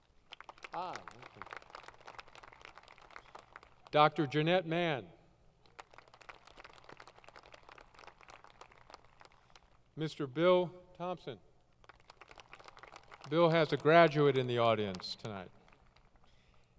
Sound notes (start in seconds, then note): 0.0 applause; 5.6 applause; 11.7 applause